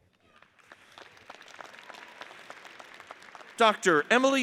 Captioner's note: audience applauds